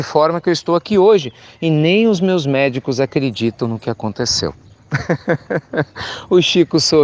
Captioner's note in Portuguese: Risos